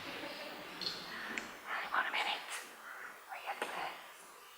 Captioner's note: whispers